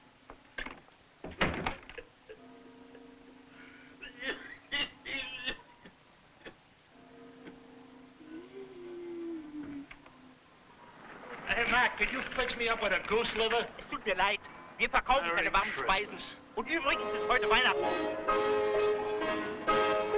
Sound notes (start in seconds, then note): 2.2 laughing; 3.9 coughing; 8.2 wheezing; 13.7 man speaking foreign language; 17.4 upbeat music